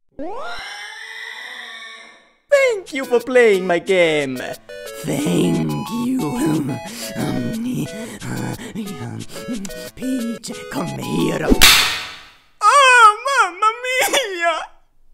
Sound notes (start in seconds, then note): 0.2 pig squeal; 7.0 manly noises; 11.5 slap